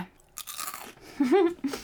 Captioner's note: toasted bread crunching; giggling